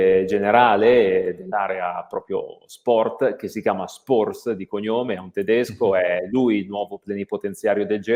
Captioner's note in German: deutsch